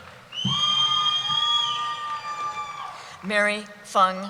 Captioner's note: cheering